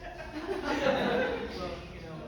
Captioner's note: crowd laughing